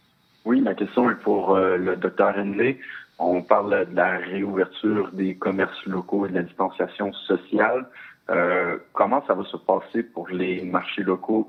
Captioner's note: speaking French